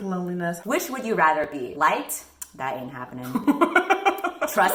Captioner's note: cackles